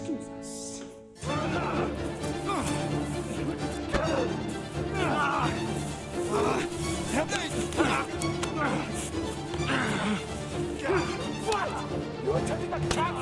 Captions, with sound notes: Excuse us. (dramatic music) (groaning) (dramatic music) Fight!